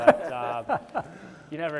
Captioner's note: chuckles